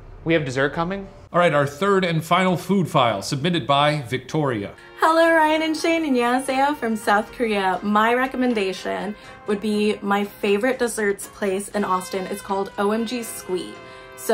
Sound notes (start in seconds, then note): 6.2 speaking foreign language